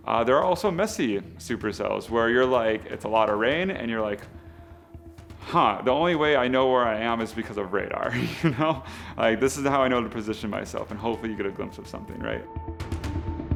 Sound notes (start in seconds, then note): 8.1 laughs